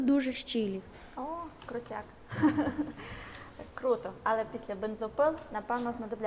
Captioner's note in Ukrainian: сміх